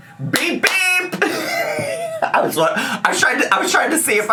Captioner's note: laughs